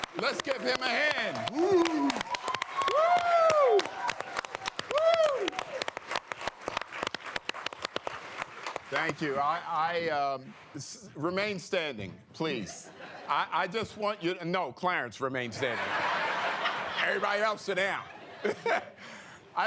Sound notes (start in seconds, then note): 0.0 cheering and applause; 15.6 laughter